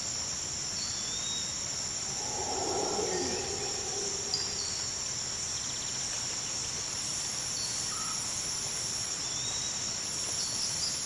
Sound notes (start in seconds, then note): 1.9 crickets chirping; 5.3 light jungle ambience